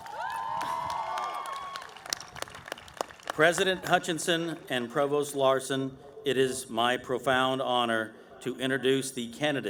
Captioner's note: cheering